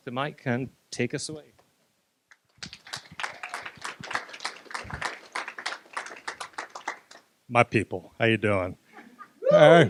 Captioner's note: applause